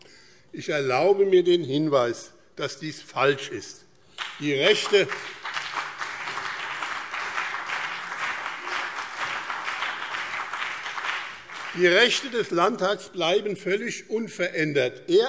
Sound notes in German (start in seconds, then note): 4.1 Beifall BÜNDNIS 90/DIE GRÜNEN und CDU